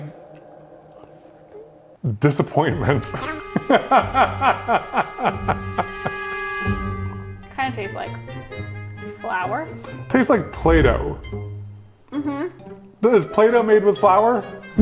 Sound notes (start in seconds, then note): 2.5 laughing; 6.0 playful music